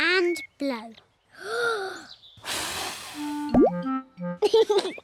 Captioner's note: takes big breath and blows; laughs